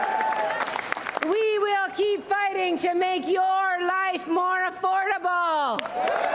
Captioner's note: applause